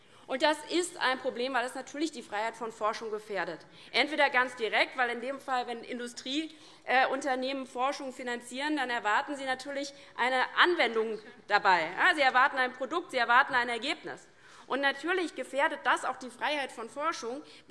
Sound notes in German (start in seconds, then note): none